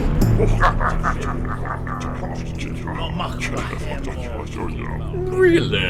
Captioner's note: Klingon muttering and laughter